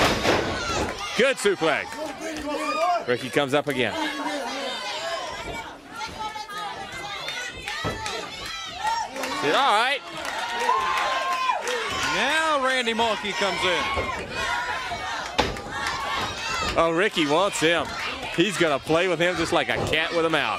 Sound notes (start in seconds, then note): 1.6 crowd chatter; 2.4 crowd cheering; 5.7 crowd chatter